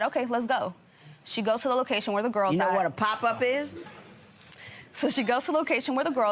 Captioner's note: none